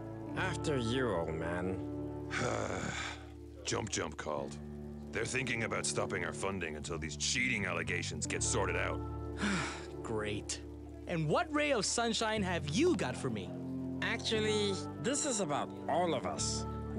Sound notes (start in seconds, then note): 2.3 sigh; 9.4 sigh